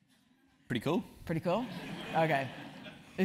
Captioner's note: laugh